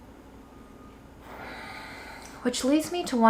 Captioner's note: sighs